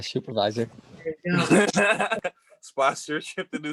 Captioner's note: laughs